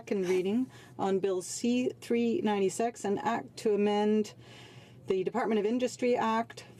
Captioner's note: speaking in french